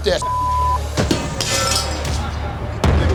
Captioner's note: clang, shatter